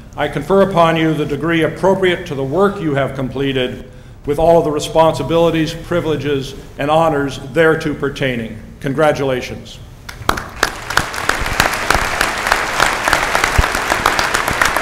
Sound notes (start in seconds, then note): 10.1 applause